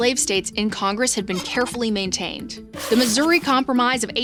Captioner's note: graphics squeak